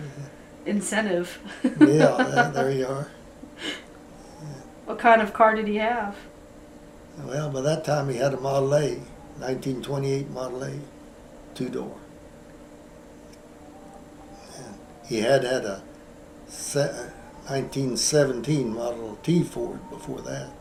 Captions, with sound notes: Incentive. (Laughs) Yeah, there you are. What kind of car did he have? Well, by that time he had a Model-A. 1928 Model-A, two door. And he had had a 1917 Model-T Ford before that.